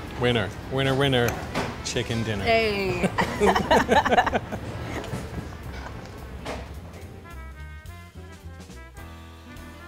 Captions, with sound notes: - Winner, winner, winner, chicken dinner. (laughs) (jazzy music)